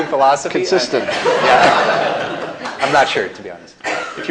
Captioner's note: laughter